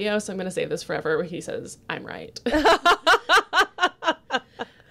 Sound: laughs

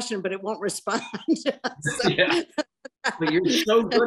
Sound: both laugh

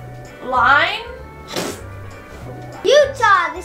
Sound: laughs

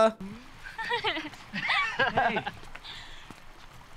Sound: laughs

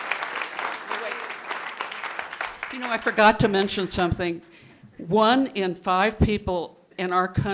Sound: applause

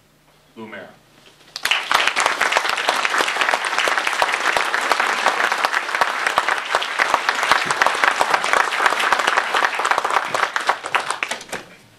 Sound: applause

